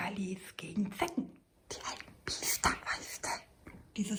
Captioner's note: whispers